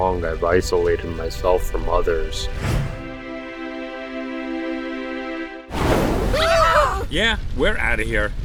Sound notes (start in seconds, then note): 2.3 dramatic music; 5.7 burning sounds